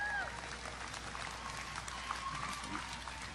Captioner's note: audience applause